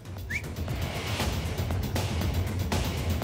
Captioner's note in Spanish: Silbido